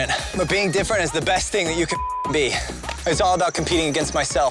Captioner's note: beep